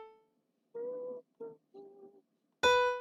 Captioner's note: humming